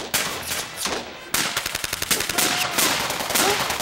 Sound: gun fire

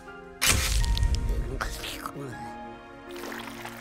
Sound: slurps

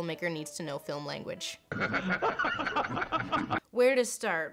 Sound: laughing

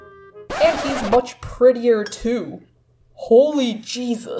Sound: record scratch

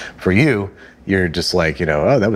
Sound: shudders

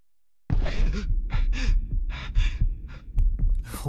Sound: gasping and panting

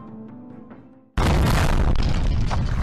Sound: boom!!

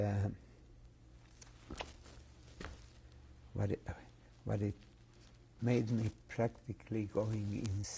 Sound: pauses for 3 seconds

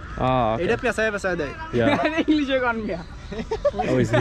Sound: speaking local language

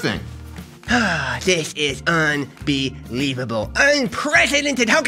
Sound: sighs

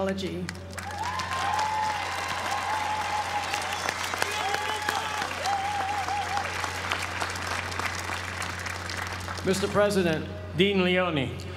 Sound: applause

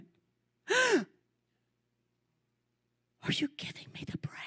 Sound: gasps

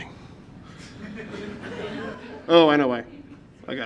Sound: some laughter from the audience

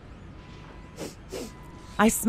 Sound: dog sniffs

